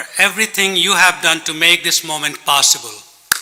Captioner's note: applause